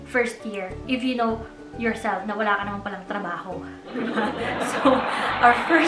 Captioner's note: laughs